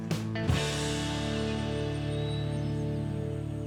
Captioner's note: birds chirping